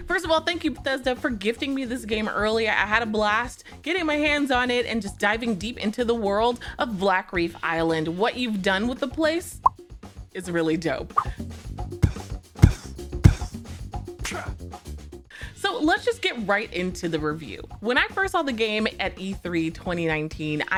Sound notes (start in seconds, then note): 11.1 air pops; 11.8 air thumping; 12.0 air whooshing